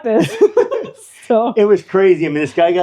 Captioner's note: laughing